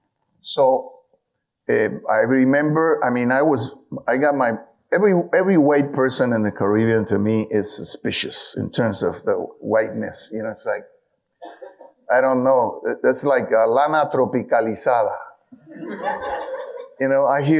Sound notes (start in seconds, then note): 14.3 speaks in foreign language; 15.6 audience laughing